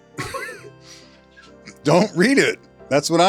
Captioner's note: all laughing quietly